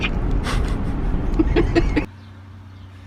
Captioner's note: laughter